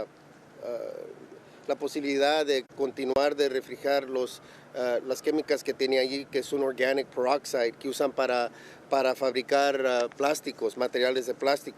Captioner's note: speaking spanish